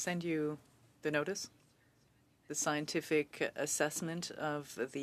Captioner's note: speaking French